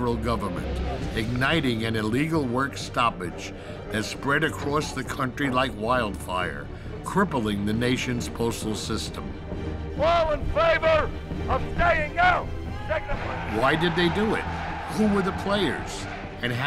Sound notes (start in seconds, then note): 12.6 wild cheering